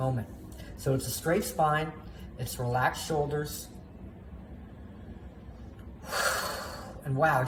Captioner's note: deep breath